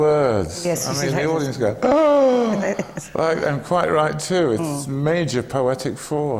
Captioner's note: laughs